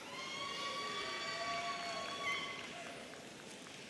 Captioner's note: audience cheering